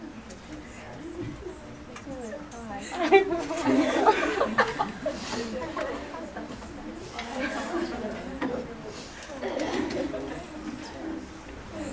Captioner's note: background chatter